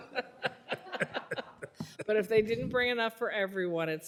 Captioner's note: laughter